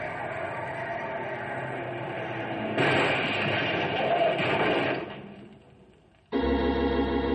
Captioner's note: gunshots